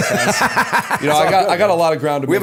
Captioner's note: laughter